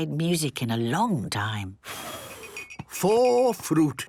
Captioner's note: blows